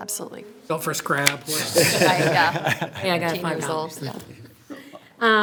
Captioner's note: people laughing